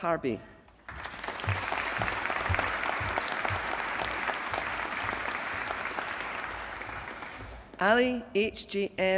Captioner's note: applause